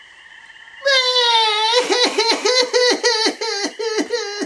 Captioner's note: bursts into tears